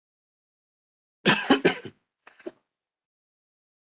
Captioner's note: coughing